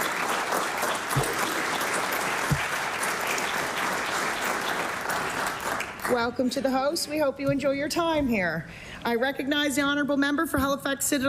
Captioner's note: applause